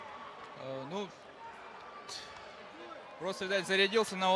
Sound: answering in foreign language

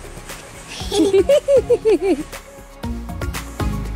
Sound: kids laugh; upbeat electronic music

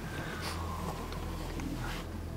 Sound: sniffs

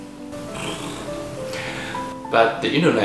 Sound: purr

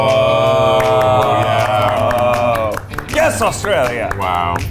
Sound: all applauding

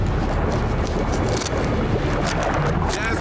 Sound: water rushing; scissors scratching

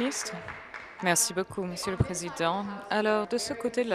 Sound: applause

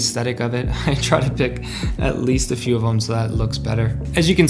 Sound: chuckles

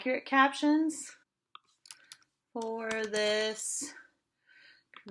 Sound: keyboard noises

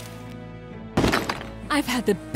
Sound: gun fires; ice shatters

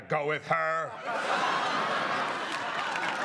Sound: laughter

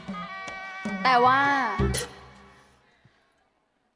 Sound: counting

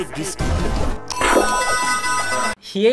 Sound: goofy ah sounds

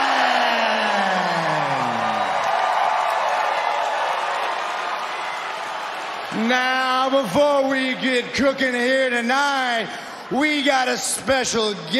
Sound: cheering

